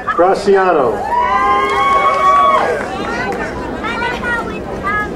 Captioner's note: crowd cheering